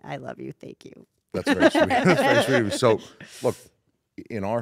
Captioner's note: laugh